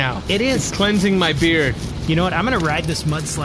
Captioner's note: scratching